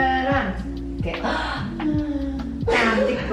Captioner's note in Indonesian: tarik napas